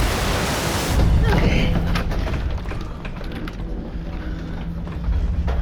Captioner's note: rumble